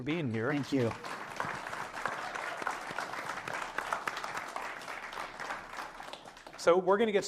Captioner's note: applause